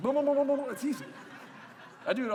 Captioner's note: laughter